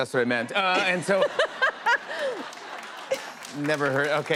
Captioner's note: laughter